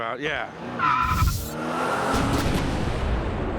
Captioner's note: screeching tires; revving engine